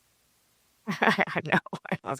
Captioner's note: laughing